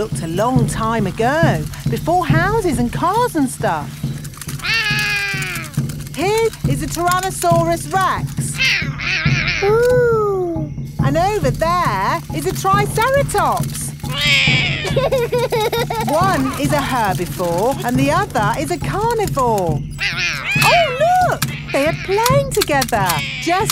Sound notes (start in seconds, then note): 4.6 roaring; 8.7 roaring; 14.0 roars; 14.0 laughs